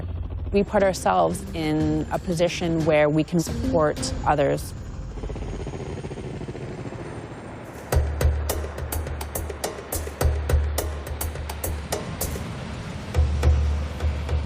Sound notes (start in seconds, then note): 5.5 helicopter blades whirring